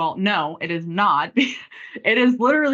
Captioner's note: chuckles